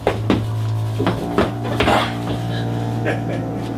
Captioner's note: grunts; laughs